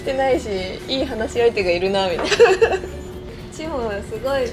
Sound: laughs

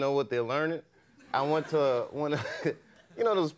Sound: chuckles

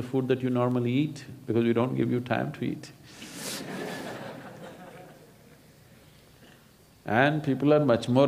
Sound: laughter

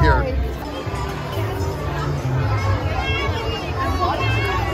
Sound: people chattering

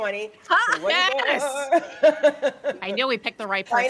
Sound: people laughing

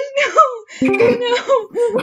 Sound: through laughter; discord join call sound; through laughter

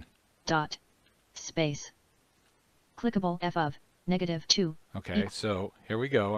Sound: synthesized speech

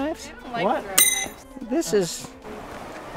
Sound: a third pinging sound

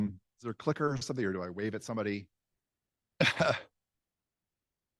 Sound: chuckle

